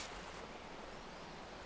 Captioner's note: gentle sprinkler spraying